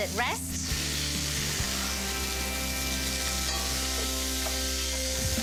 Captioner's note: sizzling